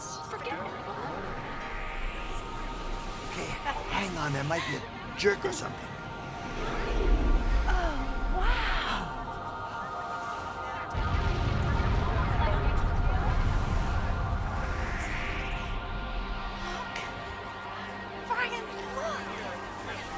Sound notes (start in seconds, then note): 10.9 rumbling Explosion